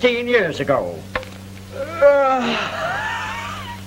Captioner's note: yawns